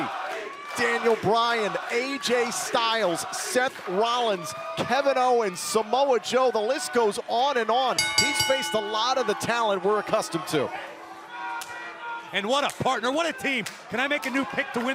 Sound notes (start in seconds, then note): 8.0 bell ringing; 12.4 crowd chatter